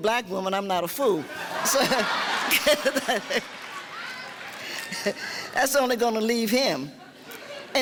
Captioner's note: laughing